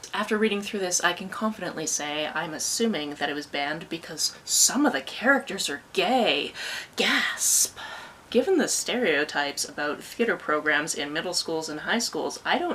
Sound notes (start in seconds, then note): 6.5 gasp